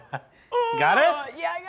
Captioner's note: groans